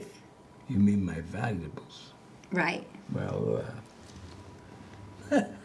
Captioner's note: he chuckles